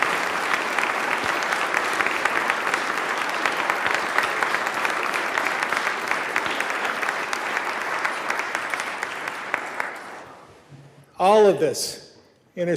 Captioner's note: applause